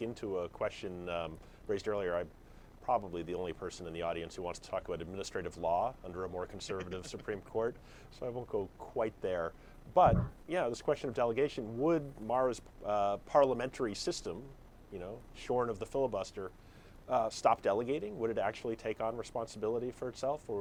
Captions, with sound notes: into a question raised earlier. I'm probably the only person in the audience who wants to talk about administrative law under a more conservative (Jonah laughs) Supreme Court, so I won't go quite there. But, yeah, this question of delegation. Would Mara's parliamentary system, shorn of the filibuster, stop delegating? Would it actually take on responsibility for itself?